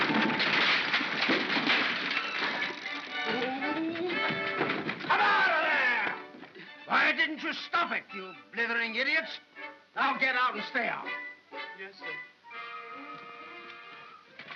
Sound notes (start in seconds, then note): 0.0 wood cracking & splintering; 2.4 whimsical music; 2.8 Ollie makes flustered noise; 13.2 whimsical music